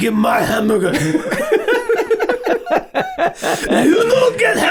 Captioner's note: all laughing